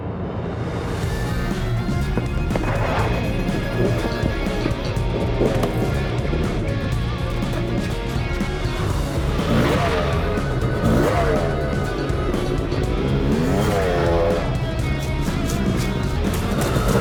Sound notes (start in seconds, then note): 10.0 revving; 15.5 leaves crunching